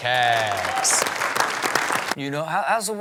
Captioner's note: audience applauds